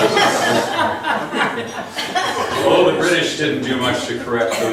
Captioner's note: laughs